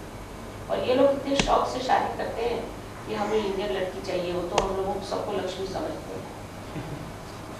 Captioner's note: hindi